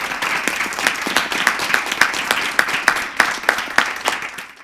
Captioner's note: applause